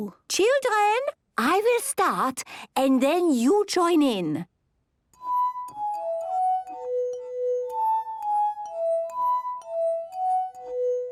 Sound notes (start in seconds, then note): 5.1 glasses vibrate to the tune